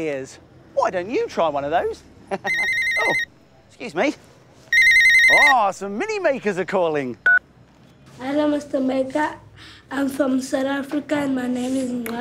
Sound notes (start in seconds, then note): 2.4 phone rings